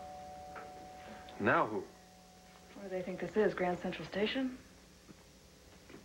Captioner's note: doorbell rings